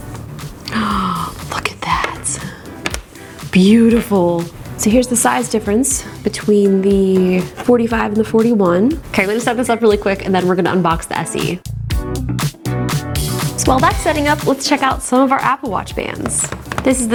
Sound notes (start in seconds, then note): 0.6 gasps; 12.0 upbeat music